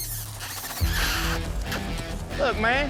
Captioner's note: smooch sound